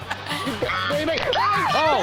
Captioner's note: Chanel laughs; geese honk; bystander screams